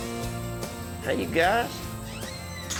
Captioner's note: door closes